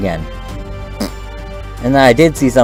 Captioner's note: another raspberry noise